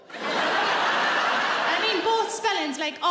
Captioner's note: audience laughing